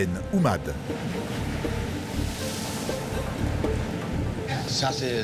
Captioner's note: water splashing; captain speaking foreign language